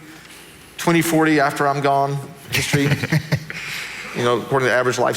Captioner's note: laughing